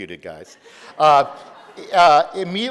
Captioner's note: audience laughing